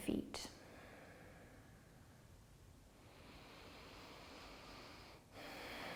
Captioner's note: deep breathing